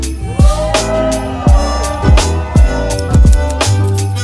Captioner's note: friends cheering